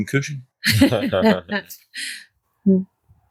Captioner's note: laughter